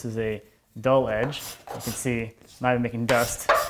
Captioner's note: blade scraping